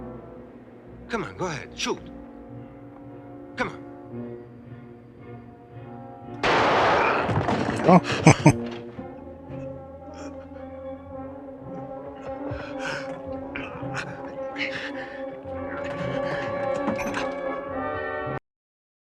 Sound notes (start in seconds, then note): 7.7 chuckling